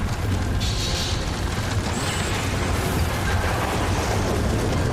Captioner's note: thunderclap; explosion